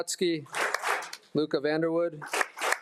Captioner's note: attendees applauding